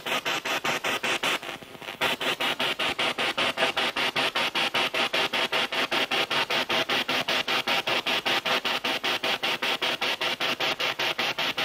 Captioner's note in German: Noise of the spiritbox in the background